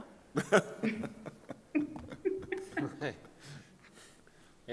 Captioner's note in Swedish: Skratt